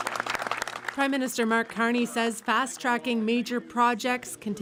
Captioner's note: applause